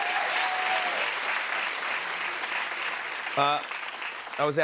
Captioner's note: cheers and applause